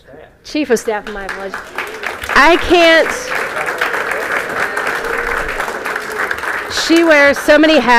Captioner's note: applause